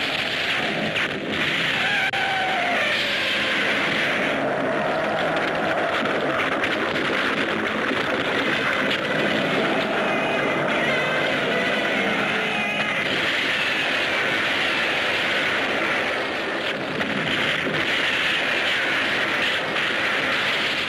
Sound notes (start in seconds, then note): 1.1 bullets thudding; 4.9 concrete cracking; 16.4 explosions booming